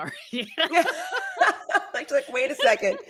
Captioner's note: all laughing